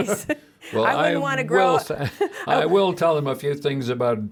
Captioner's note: laughing